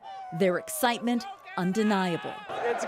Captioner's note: chants